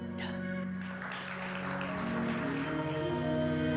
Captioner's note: applause